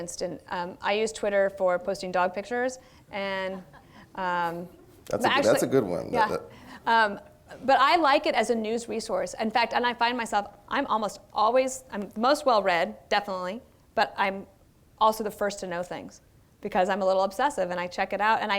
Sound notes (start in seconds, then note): 3.7 laughter